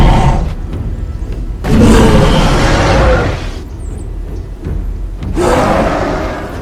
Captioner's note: Kong Roaring loudly